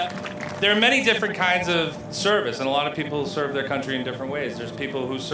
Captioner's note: applause